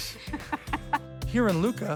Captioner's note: laughs